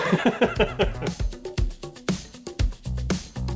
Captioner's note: laughter